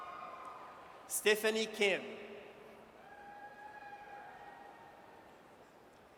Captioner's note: audience cheers